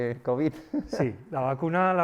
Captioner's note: chuckles